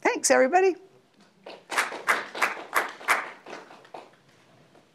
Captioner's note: audience clapping